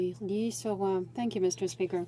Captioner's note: speaking in French